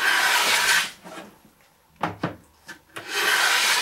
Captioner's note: wood scrapes